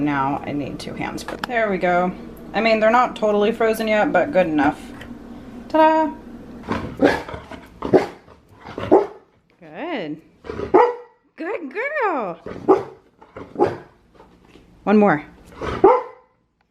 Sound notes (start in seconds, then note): 6.7 barks; 10.6 barks